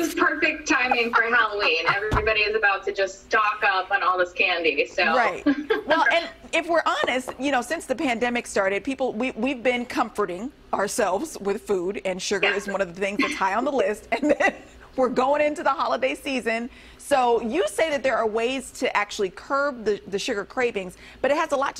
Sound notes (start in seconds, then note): 14.1 laughter